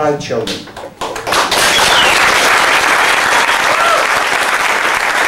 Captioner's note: applause